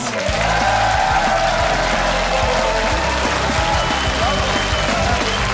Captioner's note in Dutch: applaus en gejuich